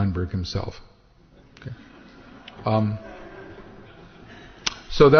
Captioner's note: laughter